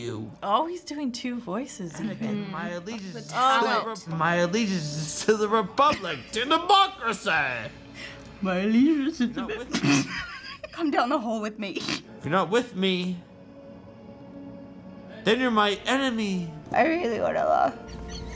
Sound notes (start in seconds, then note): 7.6 laughs; 9.2 laughs; 17.8 wheezing laughter